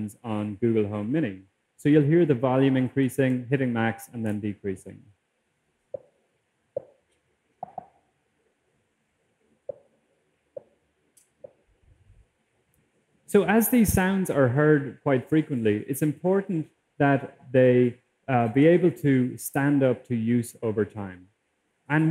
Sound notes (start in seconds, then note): 5.0 tapping increasing in volume; 9.4 tapping decreasing in volume